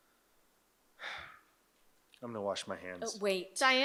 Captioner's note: sighs